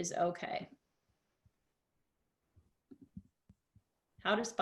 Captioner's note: silence